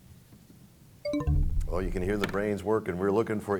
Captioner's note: bell chimes, time expires